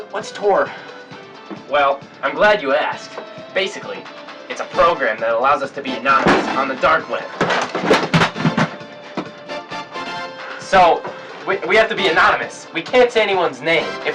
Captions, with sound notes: What's Tor? Well, I'm glad you asked. Basically, it's a program that allow us to be anonymous on the dark web. (equipment crashing) So we have to be anonymous. We can't say anyone's name.